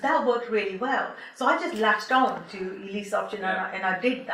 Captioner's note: snapping fingers